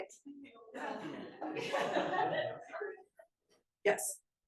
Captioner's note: attendees laughing